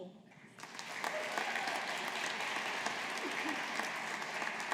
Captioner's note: audience applauding